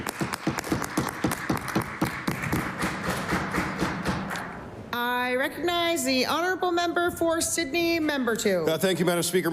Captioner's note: applause